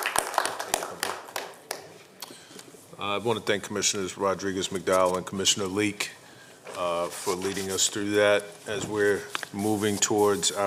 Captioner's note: applause